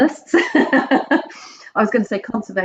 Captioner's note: laughs loudly